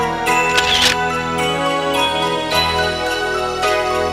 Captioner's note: snapshot noise